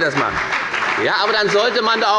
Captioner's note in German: Beifall bei der FDP